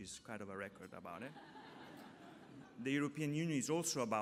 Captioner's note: laughter